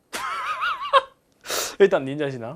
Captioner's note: phew